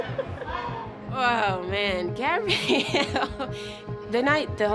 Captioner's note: laughs